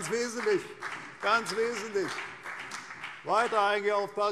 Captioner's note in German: Beifall CDU und BÜNDNIS 90/DIE GRÜNEN